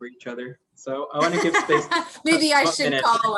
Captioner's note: laugh